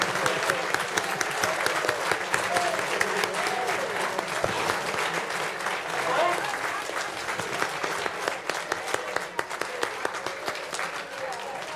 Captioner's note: applause